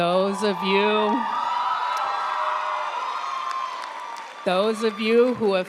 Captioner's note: audience cheering and applauding